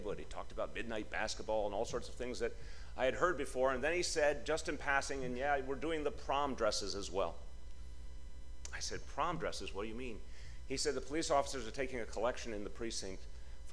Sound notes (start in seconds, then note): none